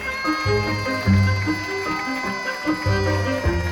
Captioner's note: staff cheering